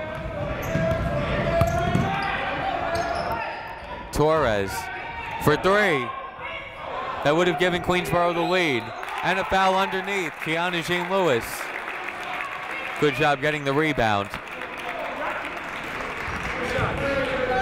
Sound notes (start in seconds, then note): 0.2 people shouting in the crowd; 9.1 whistle tweeting; 12.1 crowd clapping; 14.5 crowd clapping; 16.5 people shouting in the crowd